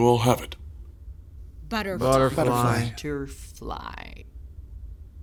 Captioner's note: in discordant unison